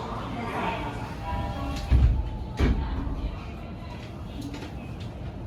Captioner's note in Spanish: se cierran las puertas del metro